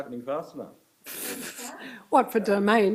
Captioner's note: chuckles